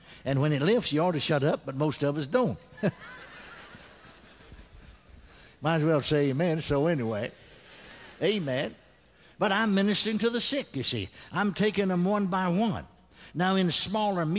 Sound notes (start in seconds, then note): 2.7 chuckles; 4.4 congregation laughs